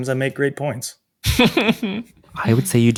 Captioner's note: charles chuckles